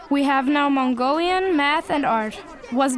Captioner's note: boy's English Voiceover